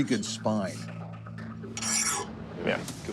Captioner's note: metal scraping